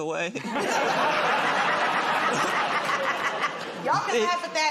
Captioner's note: laughter